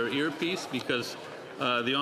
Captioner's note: speaking French